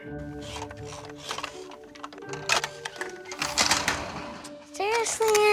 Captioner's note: toy clattering